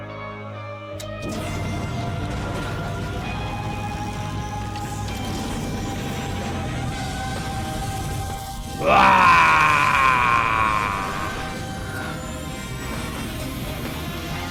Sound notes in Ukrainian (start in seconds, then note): 8.7 крик хеві від убер-заряду